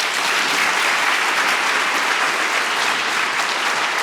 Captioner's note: audience clapping